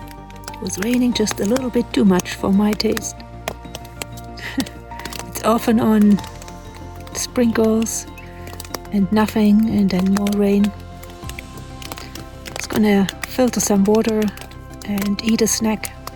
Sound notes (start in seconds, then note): 4.2 laughs